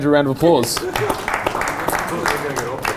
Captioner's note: audience applauding